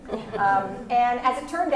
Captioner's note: laugh